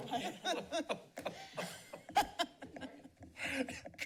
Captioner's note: laughs